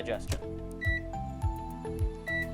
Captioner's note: beeping